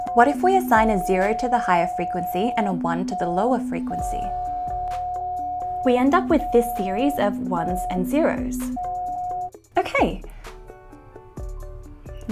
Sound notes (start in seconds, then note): 4.4 signal humming and chiming; 9.9 introspective music